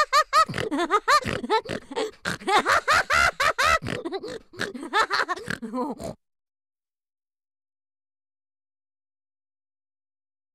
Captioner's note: laughter